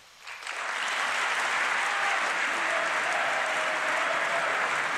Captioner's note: applause